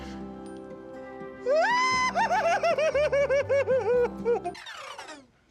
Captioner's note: squealing